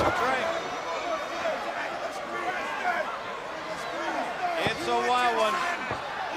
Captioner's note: crowd chatter